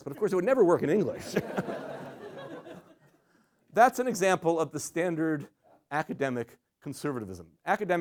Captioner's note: laughter